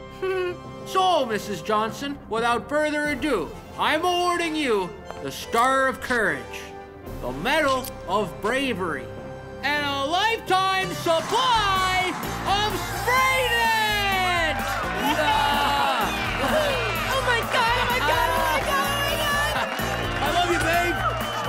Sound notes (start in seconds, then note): 0.2 giggling; 14.6 cheers and applause